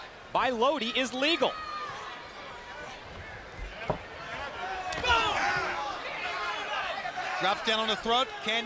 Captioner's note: crowd chatter